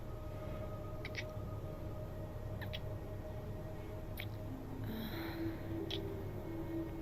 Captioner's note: kissing